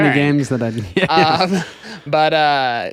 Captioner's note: laughter